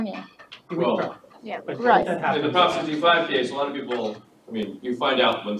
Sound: audience chattering, indistinct

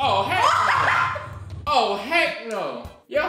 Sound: laughter

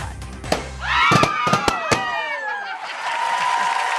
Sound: cheering; popping; audience cheering and applauding

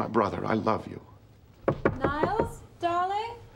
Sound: knocking

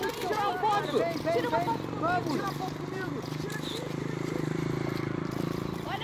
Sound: sound of bus engine, helicopter. Cameras flashing

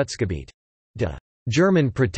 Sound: in German

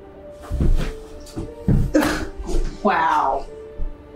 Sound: Dex rustling; scoffs

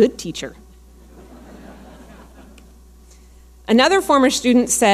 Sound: audience laughing

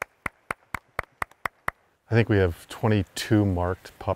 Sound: applause

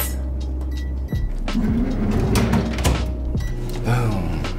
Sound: microwave beeps

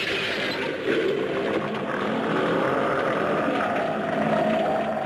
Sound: Gammera groans

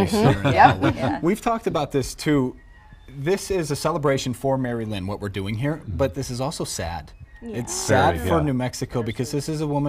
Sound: laughter

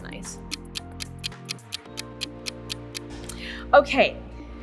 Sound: clock ticking

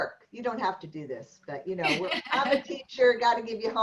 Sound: laughter

